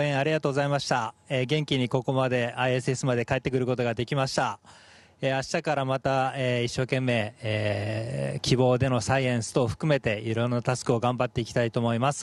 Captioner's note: speaking japanese